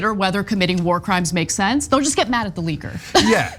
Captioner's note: laugh